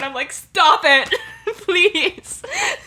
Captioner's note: lauging